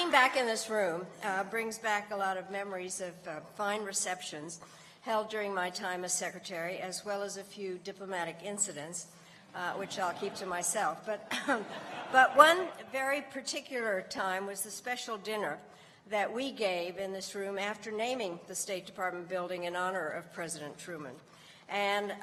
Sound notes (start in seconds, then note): 11.2 laughter